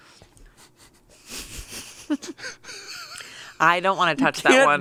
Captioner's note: chuckle